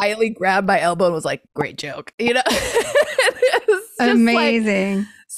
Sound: laughs

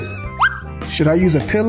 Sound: screen whistles

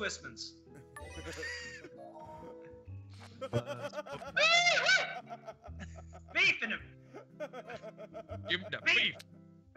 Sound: laugh

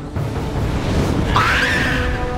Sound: screeching

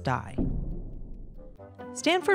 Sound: explodes

